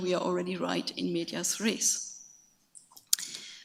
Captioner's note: speaks in foreign language